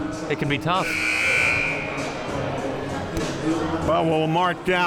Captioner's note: buzzer sounding